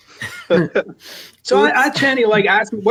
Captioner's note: laughs